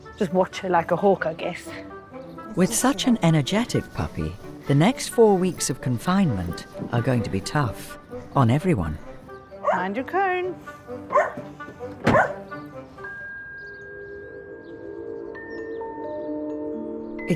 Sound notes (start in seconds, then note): 11.3 car door thuds; 12.0 Apple barking; 14.5 calm music